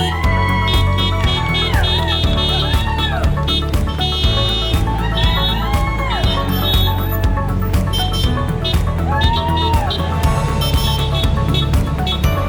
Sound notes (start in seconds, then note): 0.0 horns honking; 0.0 crowd cheering; 8.2 horns honking; 8.5 crowd cheering